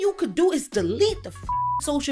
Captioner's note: beep